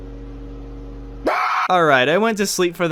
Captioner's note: scream